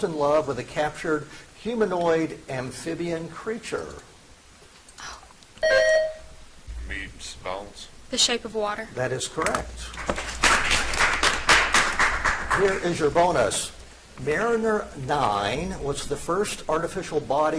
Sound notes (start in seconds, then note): 5.6 buzzer chimes; 9.9 audience applauds